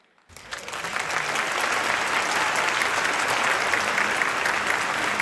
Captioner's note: audience applauding